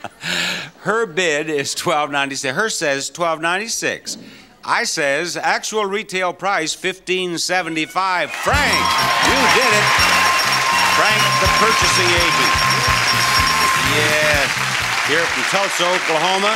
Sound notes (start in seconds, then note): 0.0 laughs; 12.7 audience cheering